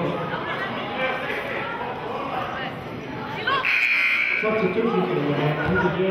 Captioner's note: announcer mumbling and buzzer sounding